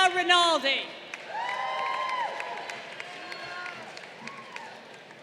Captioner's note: crowd cheering